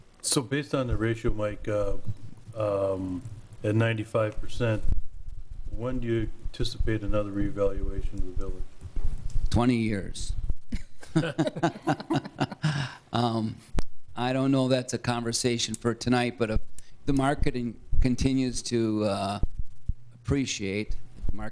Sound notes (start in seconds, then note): 10.7 laughing